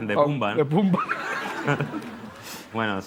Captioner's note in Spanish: Risas